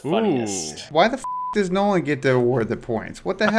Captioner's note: beep